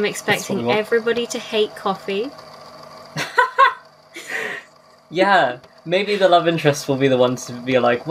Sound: laughs

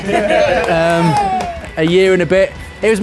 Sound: laughing; cheering

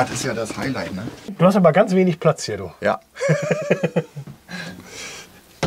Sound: laughs

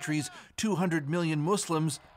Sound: speaking alternate language

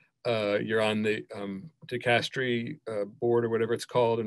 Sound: speaking in foreign language

